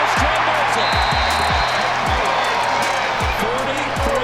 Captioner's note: crowd cheering; whistle blowing